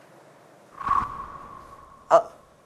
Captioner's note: gasp...!